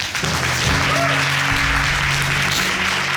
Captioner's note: applauding